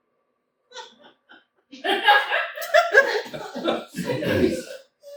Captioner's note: laughter